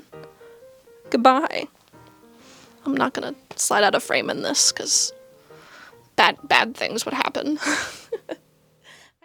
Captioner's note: laughter